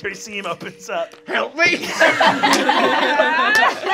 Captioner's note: laughing